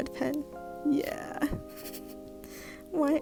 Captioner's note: laughs